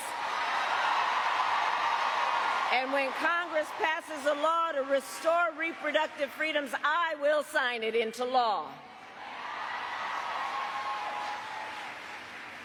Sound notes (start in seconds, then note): 4.8 cheers and applause